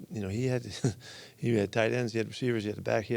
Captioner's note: laughs